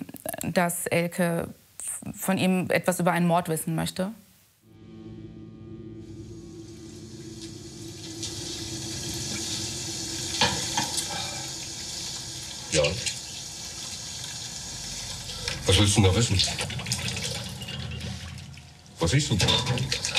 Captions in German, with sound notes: dass Elke was von ihm über einen Mord wissen möchte. (Wasserplätschern) Ja. Was willst denn da wissen? Was ist denn?